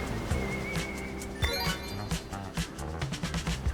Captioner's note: game chiming; waves whooshing; game twinkles; upbeat music; waves crashing